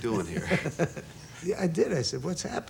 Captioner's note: laughter